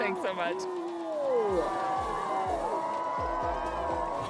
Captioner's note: crowd cheering